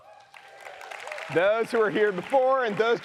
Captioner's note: audience applauds